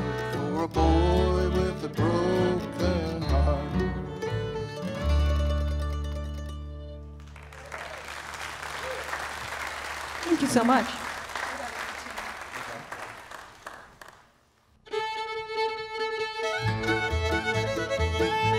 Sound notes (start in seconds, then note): 7.2 audience applauds; 14.8 bright bluegrass music